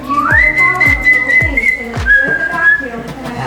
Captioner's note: whistling